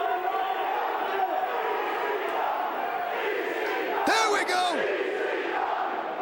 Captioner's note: crowd cheering